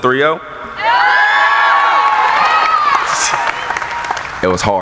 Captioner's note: cheering